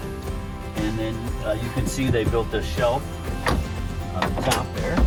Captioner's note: hand knocks